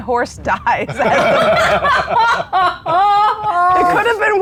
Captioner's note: players laughing